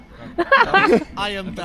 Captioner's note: laughs